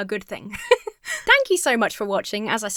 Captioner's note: laughs